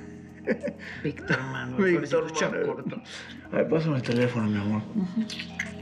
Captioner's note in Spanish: risas